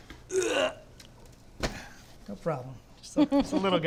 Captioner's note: grunts